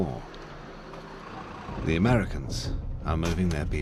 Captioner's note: none